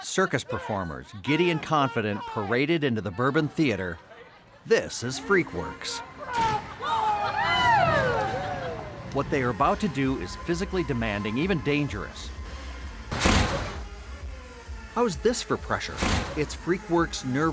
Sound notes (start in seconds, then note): 6.0 whoosh sound of blowing fire